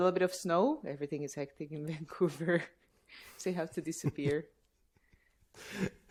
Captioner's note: laughter